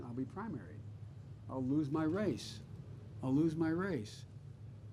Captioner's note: none